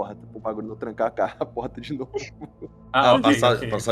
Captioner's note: laughs